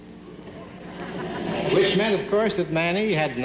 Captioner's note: audience laughing